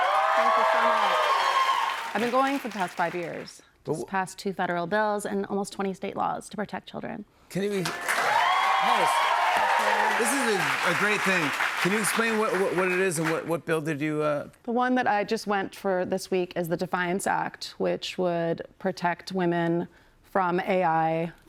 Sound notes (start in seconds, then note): 0.0 cheers and applause; 7.7 cheers and applause